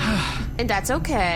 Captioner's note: Pleck sighs wearily